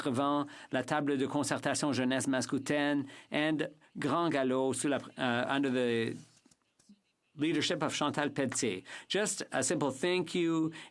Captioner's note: speaking French